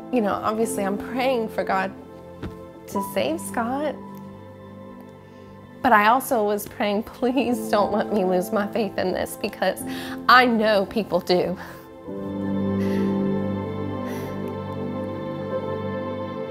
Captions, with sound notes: You know, obviously I'm praying for God to save Scott. But I also was praying, please don't let me lose my faith in this because I know people do. (breathes loudly) (slow music)